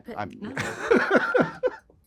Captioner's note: laughing